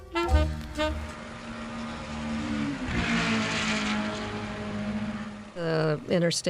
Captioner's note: racecar sound